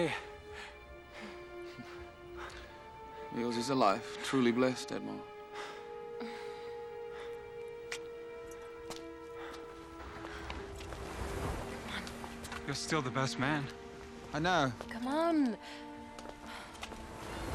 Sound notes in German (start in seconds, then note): 0.3 Kichert; 6.9 Klicks Zunge